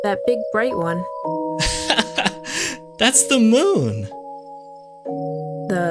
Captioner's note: laughs